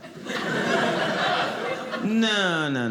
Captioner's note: audience laughing